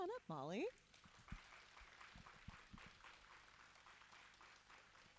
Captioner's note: audience applauding